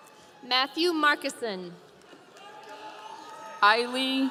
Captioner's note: audience cheering